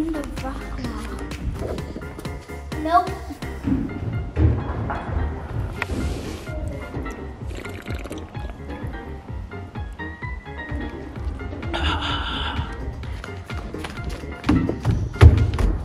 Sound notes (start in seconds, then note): 3.1 banging; 7.5 slurps drink; 11.7 exhales